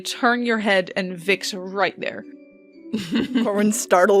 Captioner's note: laughter